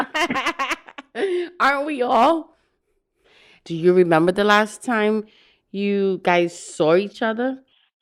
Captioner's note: laugh